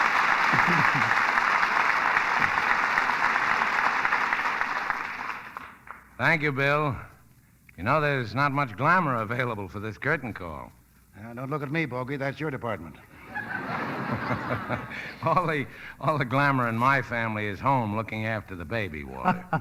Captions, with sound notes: Thank you, Bill. You know, there's not much glamor available for this curtain call. Now don't look at me, Bogie, that's your department. (audience laughing) All the glamor in my family is home looking after the baby, Walter.